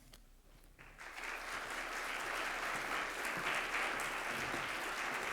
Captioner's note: audience applauds